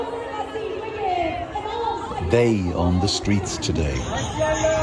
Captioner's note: crowd chanting